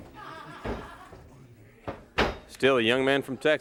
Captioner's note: crowd chatter